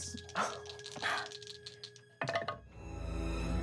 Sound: rolling dice

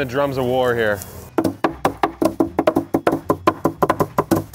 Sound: wood knocking

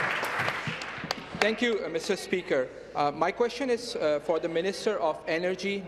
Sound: some Applause

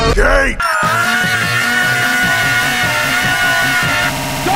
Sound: Luigi Screaming while Sanic music plays

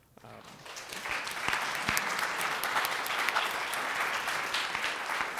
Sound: audience applauding

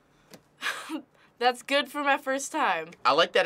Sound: chuckles

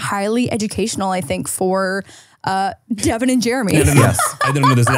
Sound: laughs

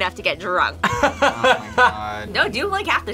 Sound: laughs

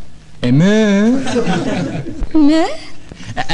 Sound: laughing

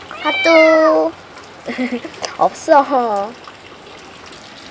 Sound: meow

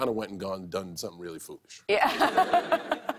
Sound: laughter

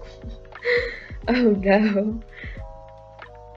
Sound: laughs

